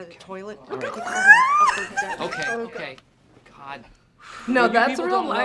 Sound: laughs

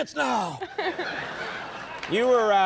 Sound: audience laughs

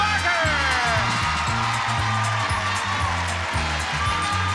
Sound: audience applauds

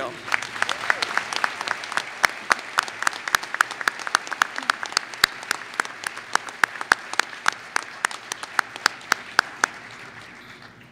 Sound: applause

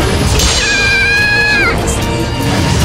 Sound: KO Scream

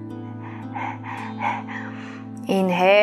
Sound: panting; tranquil music

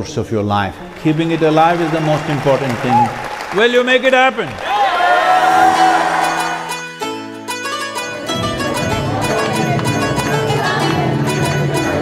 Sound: applause

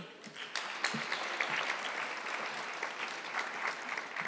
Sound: audience clapping

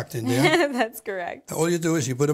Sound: laughing

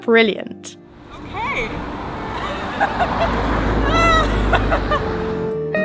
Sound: laughing; music: mellow instrumental

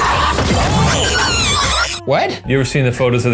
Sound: Murder Monkey screeching

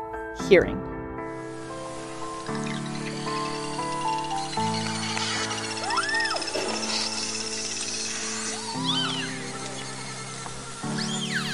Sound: background music; echolocation sounds

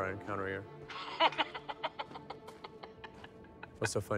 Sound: rogath laughs

